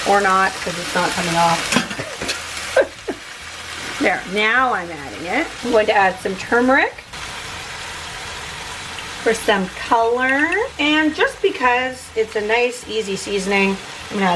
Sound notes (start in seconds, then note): 2.6 laughing; 7.7 food sizzling